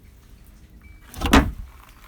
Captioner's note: lid bangs